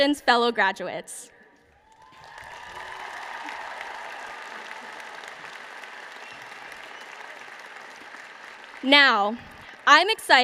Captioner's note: applause